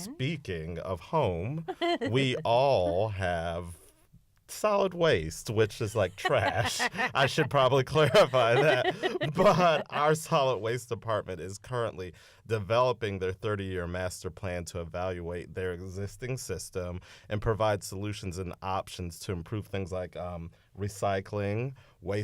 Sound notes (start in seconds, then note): 6.0 laughter